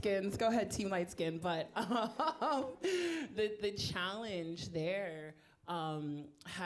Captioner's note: chuckles